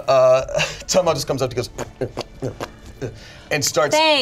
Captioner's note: makes popping noises